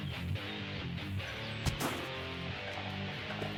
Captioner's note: metal thud